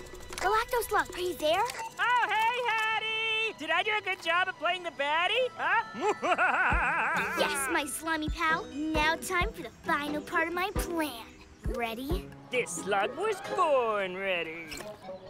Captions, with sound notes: Galactoslug, you there? Oh hey, Haddy! Did I do a good job of playing the baddy? - (Evil laugh) - Yes, my slimy pal. Now time for the final part of my plan. Ready? This slug was born ready.